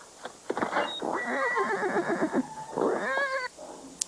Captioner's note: horse neighs